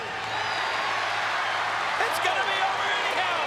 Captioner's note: crowd cheers